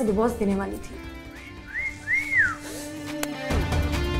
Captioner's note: Whistles